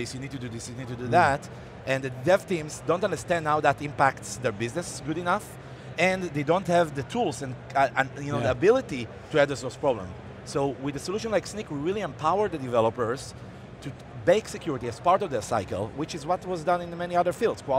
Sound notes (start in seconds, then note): none